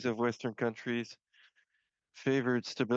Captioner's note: speaking French